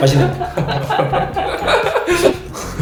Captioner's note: gulp gulp